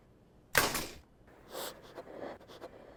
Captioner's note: Stef breathes shakily; corkscrew thuds